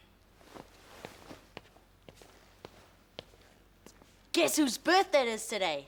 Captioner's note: footsteps approaching